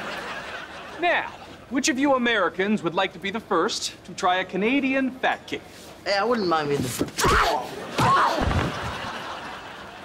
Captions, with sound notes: Now, which of you Americans would like to be the first to try a Canadian Fat Cake? I wouldn't mind being the f- [grunting]